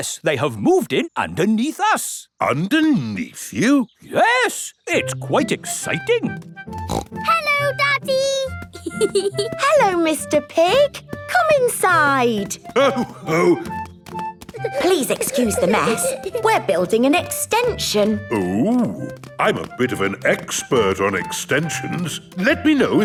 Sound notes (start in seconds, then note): 6.7 snorts; 8.7 giggling